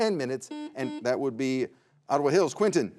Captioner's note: buzzer beeps